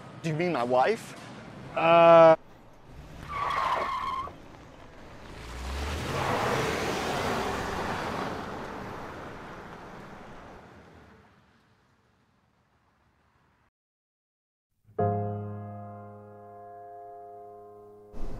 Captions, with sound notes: - Do you mean my wife? - Uhh. (tires screeching) (engine revving) (gentle piano music)